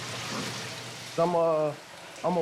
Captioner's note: oil boiling